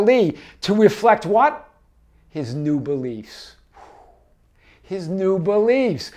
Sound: exhales

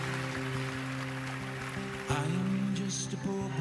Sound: cheering, applause

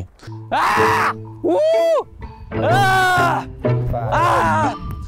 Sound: shouting randomly

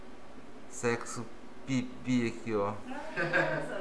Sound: laughs

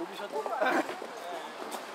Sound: cough

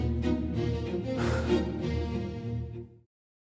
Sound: sighs

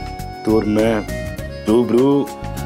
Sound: none

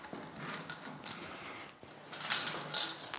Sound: metal rattling

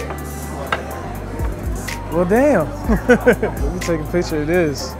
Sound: laughing

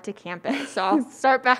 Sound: laughs

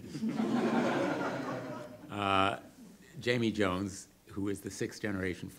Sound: audience laughter

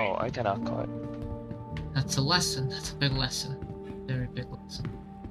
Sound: on the radio

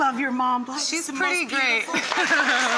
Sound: laughs

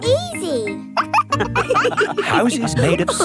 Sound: wolves laughing

